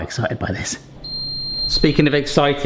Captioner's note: oven beeping